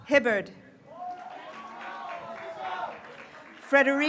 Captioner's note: graduates cheering